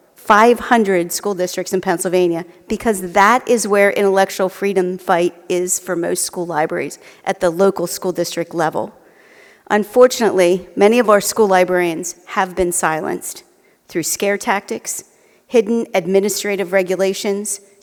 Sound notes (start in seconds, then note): none